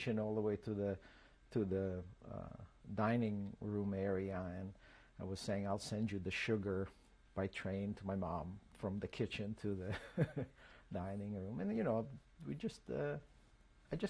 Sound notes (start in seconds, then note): 9.9 laughs